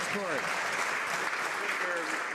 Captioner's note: some Applause